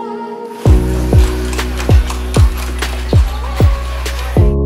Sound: horses galloping

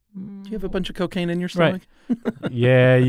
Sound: laughs

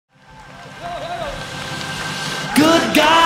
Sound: audience cheers

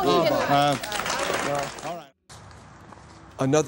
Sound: applause

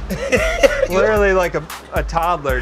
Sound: laughs

